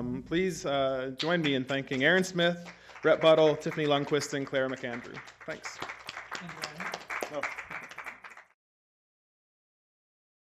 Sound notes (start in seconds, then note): 5.9 applause